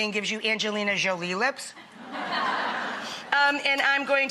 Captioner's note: audience laughs